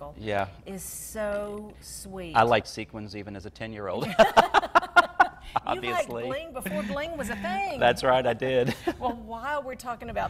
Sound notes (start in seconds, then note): 4.0 both laugh; 6.6 laughs